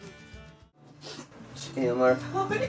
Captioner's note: sniffles